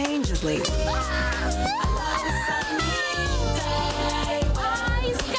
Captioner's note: girl yelling loudly